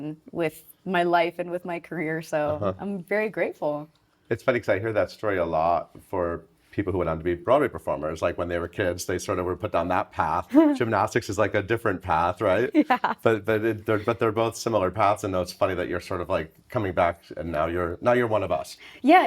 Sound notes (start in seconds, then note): 12.6 chuckling